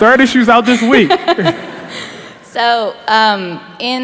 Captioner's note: laughter